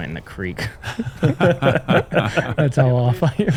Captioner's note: laughter